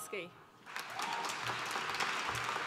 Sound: applause

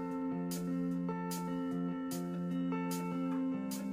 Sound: none

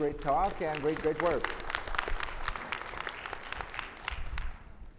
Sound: audience clapping

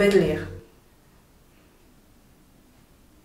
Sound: silence

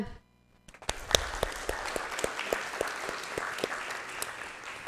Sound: audience applauding

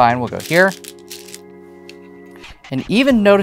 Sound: stones rattling

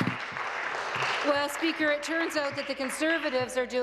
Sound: applause

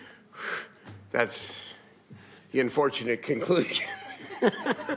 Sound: laughing

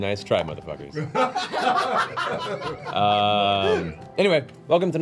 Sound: all laugh

